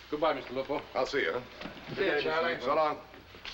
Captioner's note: voiceover